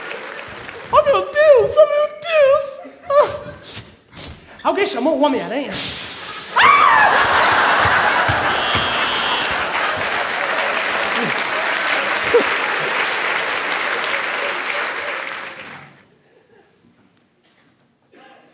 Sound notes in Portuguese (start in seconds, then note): 5.7 barulho de spray; 6.5 grito; 8.4 campainha